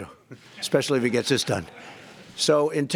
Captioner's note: laughter